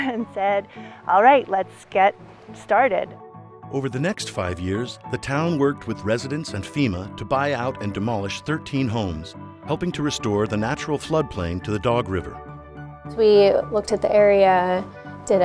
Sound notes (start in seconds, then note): 0.0 chuckles; 4.0 voiceover